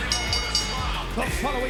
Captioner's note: bell dinging